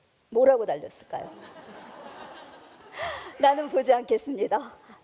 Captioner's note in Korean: 웃음